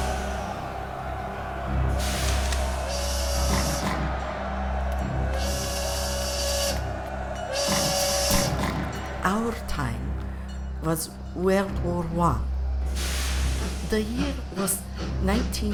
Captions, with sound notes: (train whistle blowing) Our time was World War I. The year was 1917.